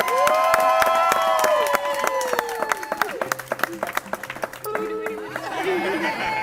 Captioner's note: audience cheering; attendees cheering